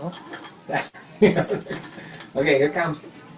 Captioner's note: laughter